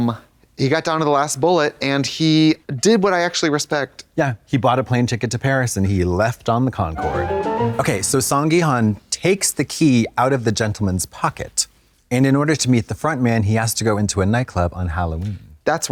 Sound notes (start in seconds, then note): 7.0 bright chime